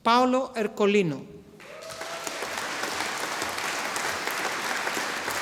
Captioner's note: audience applauding